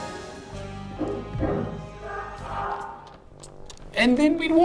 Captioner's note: knock knock on ceiling